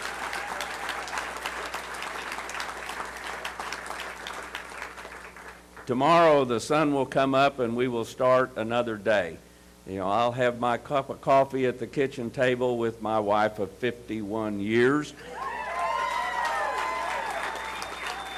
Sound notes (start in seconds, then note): 3.1 applause